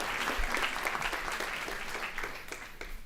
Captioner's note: applause